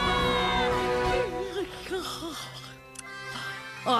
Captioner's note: yawning